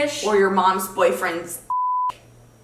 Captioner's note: beep